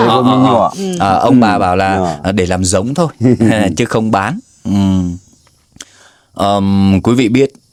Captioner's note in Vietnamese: hắng giọng